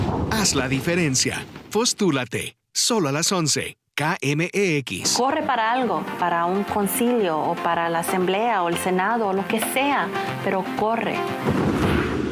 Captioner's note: speaking spanish